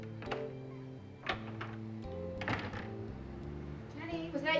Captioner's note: door closing softly